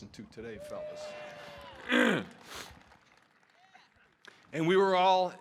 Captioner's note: audience cheering; clearing his throat